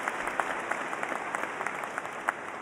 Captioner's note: applause